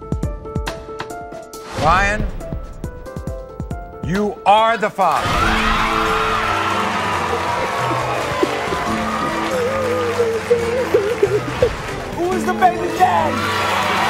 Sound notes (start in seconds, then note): 0.1 upbeat music; 5.4 cheering; 5.9 applauding; 9.1 crying; 13.9 applauding; 13.9 cheering